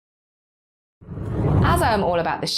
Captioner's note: graphic whooshes